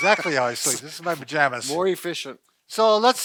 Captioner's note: laughing